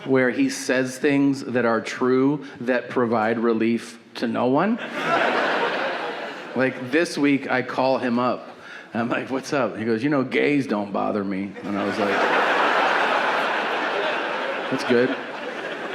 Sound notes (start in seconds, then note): 4.8 audience laughing; 11.5 audience laughing